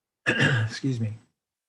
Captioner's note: clearing his throat